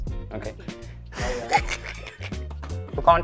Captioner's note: chuckles